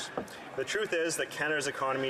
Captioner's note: speaking French